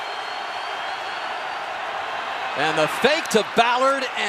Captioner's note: cheering